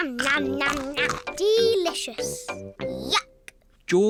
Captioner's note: crunches